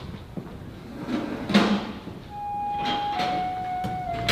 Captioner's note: door closes